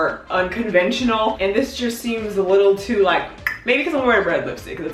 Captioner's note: clicks tongue